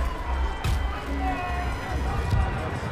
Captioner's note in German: Stimmengewirr